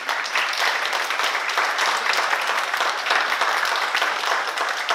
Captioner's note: oklaski